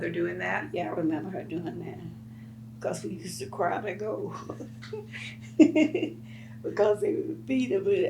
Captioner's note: laughs